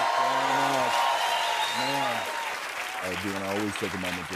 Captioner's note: cheers and applause